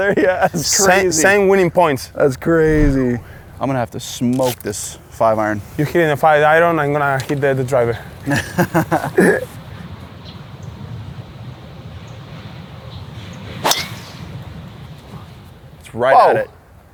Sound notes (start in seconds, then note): 8.3 laughs